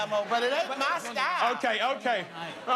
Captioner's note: laughter